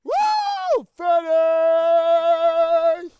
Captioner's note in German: Jubel